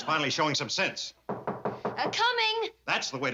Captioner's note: knocking